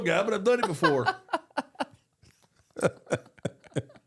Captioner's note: both laugh